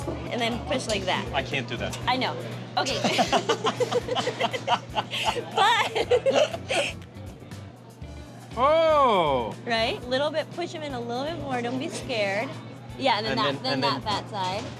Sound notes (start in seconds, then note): 2.8 laughs